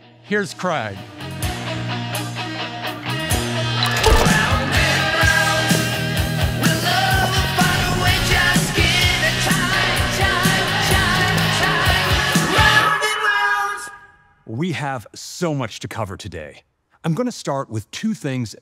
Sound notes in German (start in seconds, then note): 3.8 autoschloss piept